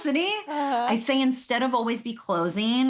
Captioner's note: laughing